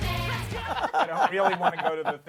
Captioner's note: laughter